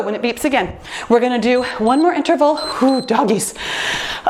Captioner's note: timer beeps